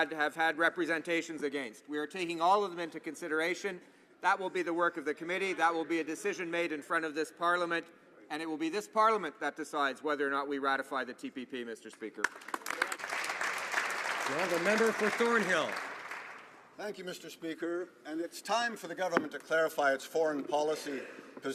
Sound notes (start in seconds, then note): 16.5 some Applause